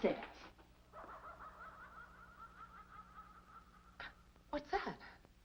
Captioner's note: strange laughing in distance